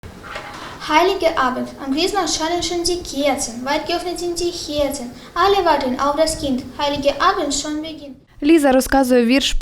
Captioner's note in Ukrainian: читає вірш німецькою